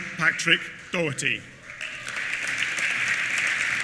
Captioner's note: applause